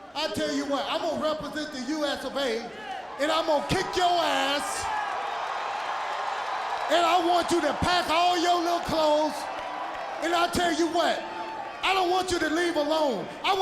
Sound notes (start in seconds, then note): 5.1 crowd cheers